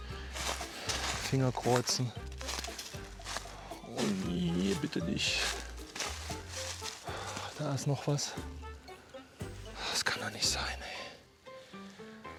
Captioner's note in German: seufzt